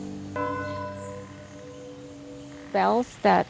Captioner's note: bell ringing